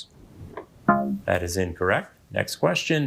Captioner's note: buzzer beeping